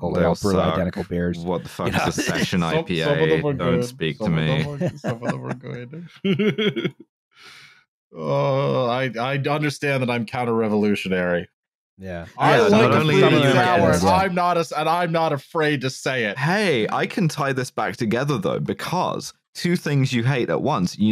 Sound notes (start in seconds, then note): 1.4 laughs; 4.2 chuckles